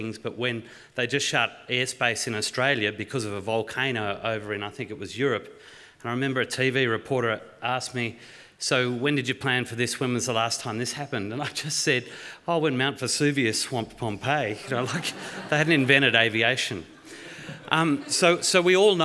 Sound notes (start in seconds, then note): 14.6 laughter